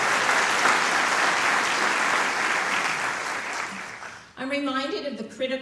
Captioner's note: applause